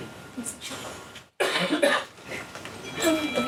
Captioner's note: phone ringing